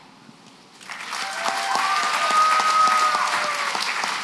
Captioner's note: applause